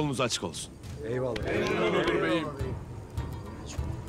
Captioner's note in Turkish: Hep bir ağızdan